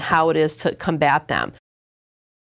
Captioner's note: silence